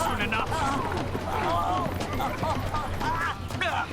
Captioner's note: grunting